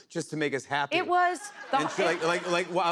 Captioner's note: laughter